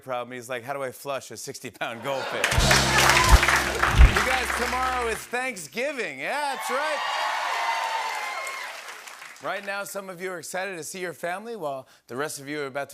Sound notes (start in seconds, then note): 6.4 cheers and applause